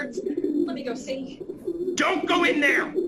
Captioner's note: louder pigeon sounds